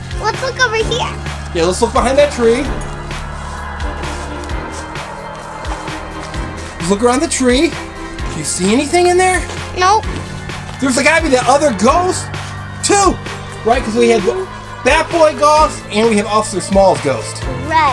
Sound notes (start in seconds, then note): 3.8 spooky wind whistling